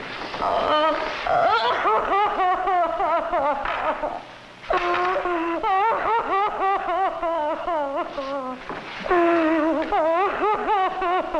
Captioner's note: sobbing